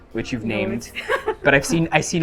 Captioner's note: laughs